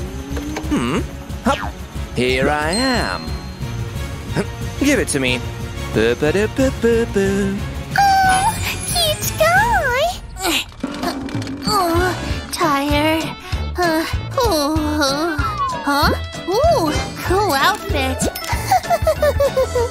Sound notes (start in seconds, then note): 6.7 singing; 10.3 groans